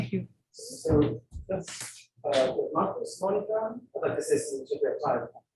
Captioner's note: indistinct conversation